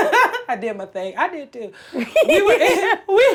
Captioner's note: Blac Chyna laughs; laughs